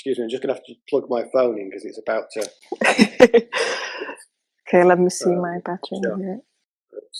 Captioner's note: laughter